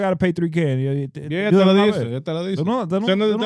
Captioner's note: speaking In Foreign Language